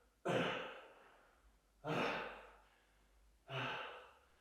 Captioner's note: Jacob coughs; Jacob panting